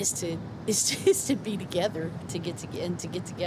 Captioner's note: laughs